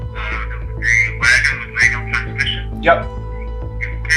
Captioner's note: on phone